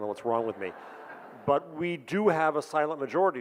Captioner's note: audience groans and laughs